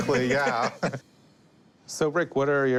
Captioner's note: both laugh